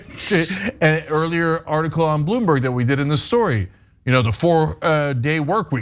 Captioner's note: laugh